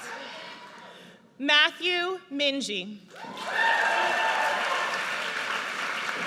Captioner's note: audience cheers